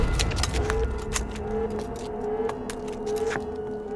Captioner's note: loud banging; alarm blaring